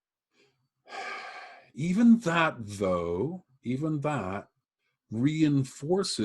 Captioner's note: sighs